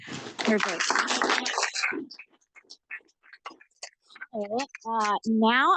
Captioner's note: audience applauds